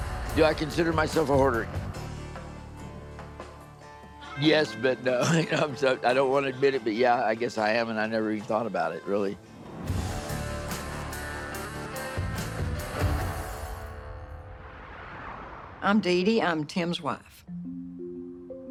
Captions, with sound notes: Do I consider myself a hoarder? Yes, but no. (laughs) I'm so, I don't want to admit it, but yeah, I guess I am. And I never even thought about it, really. (bluesy rock music) - I'm DeeDee, I'm Tim's wife.